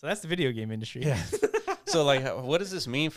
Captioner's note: laughs